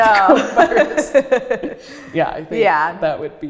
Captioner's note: laughs